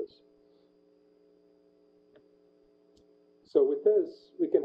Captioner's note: pause